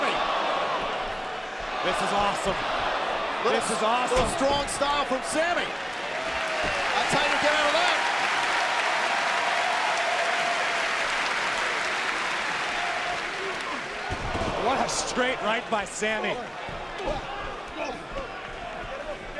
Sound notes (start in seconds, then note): 7.9 cheers and applause